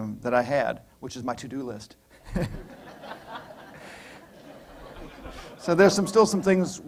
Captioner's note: laughter